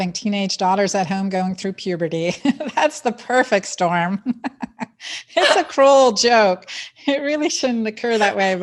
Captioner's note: laughs